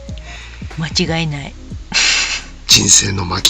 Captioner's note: laughs